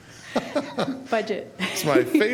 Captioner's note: laughter